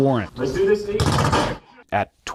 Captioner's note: rapid gunfire